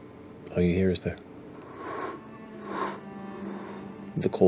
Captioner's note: hollow blowing